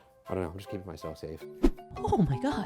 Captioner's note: air whooshing